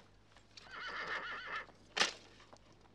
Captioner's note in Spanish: rocinante relincha